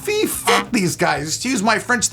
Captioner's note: buzzing